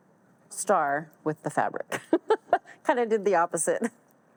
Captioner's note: laughs